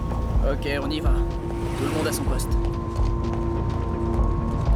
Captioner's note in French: à la radio